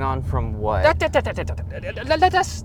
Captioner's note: Weiss mutters